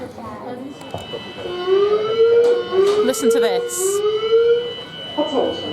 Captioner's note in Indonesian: Sirene berbunyi